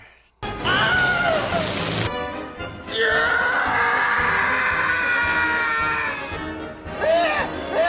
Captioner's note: horrible death and screaming while plays